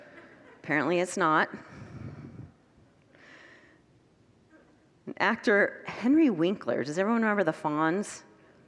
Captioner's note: congregants laugh